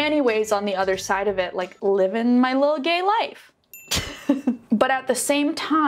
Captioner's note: laughs